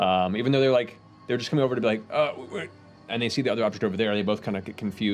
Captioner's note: confused stuttering